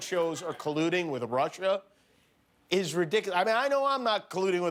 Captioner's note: laughter